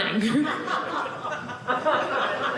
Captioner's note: audience laughing